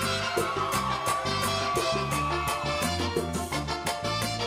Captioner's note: audience cheering